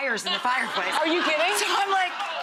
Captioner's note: audience laughs